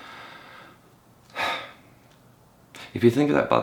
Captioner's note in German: seufzt